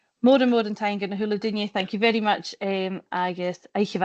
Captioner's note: closing remarks in Gaelic